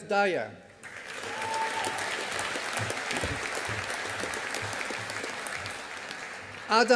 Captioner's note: audience applauding